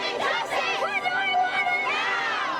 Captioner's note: crowd yells